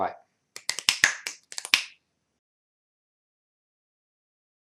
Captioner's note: clicking figures